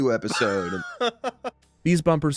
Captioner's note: laughs